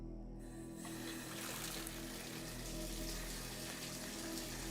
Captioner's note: water splashing